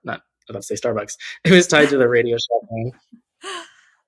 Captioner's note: <Laugh>